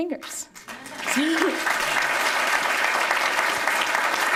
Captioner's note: applause